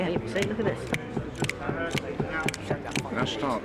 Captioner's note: tapping foot